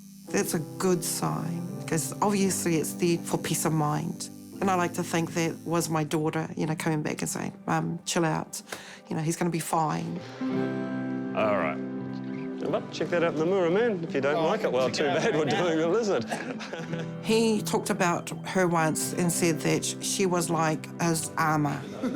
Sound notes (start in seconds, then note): 14.9 coughs, laughs; 22.0 chortles